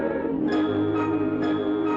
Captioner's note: ringing